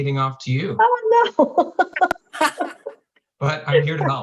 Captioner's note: laughing